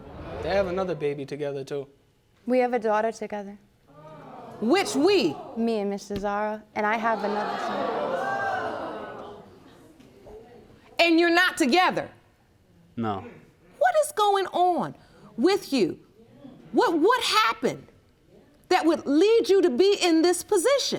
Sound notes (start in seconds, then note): 7.2 audience gasps